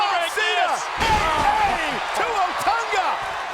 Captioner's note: body thudding